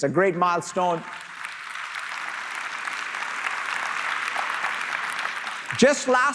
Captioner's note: applause